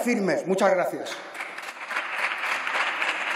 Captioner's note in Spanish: Aplausos